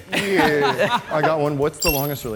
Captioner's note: laughs